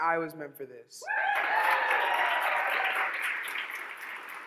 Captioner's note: audience cheers